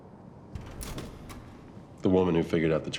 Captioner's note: door opening